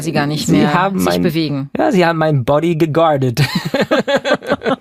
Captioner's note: laughing